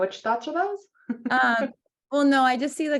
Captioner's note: laughs